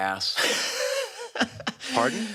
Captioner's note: laughs